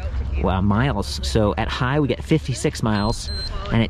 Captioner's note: bike beeps